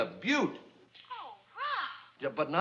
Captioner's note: on phone